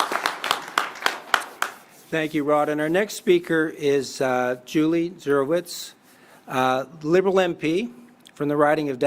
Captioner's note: applause